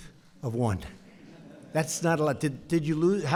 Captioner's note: laughter